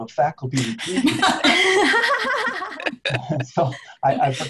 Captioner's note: laughter